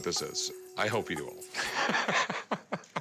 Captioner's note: laughs